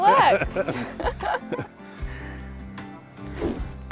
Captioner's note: laughs